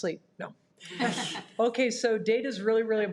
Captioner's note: participants laughs